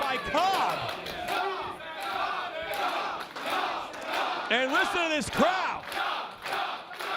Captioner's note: applause; applause